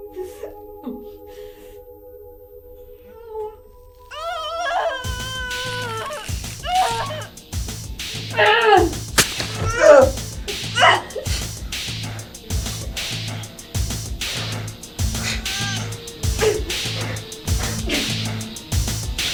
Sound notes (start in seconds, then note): 4.1 screaming; 5.5 tense music; 9.2 knife plunging; 9.6 groaning; 9.6 grunting; 11.7 tense music